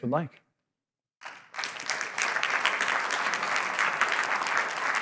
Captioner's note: applause